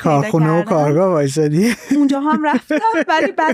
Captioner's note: laughs